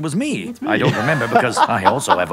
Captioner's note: laughing